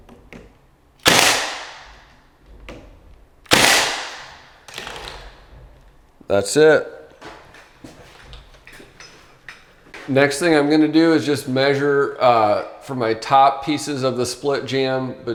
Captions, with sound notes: (nail gun shooting) That's it. Next thing I'm gonna do is, just measure for my top pieces of the split jamb,